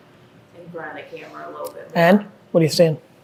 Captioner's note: speaking faintly